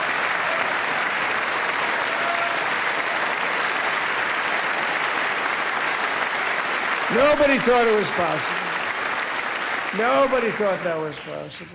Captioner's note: applause